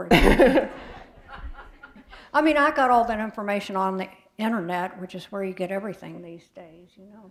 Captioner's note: laughter